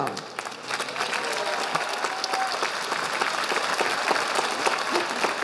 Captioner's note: audience applauding